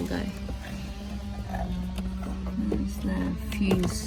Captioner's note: loud power tool continues